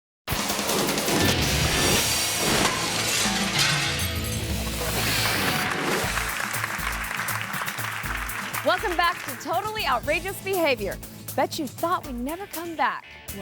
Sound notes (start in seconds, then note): 0.1 upbeat music; 3.3 glass shatters; 5.0 audience applauds